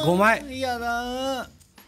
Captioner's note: sob sob sob